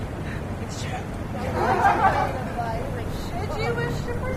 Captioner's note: laughter